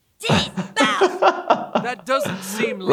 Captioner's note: laughs